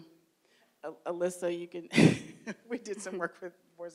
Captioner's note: chuckles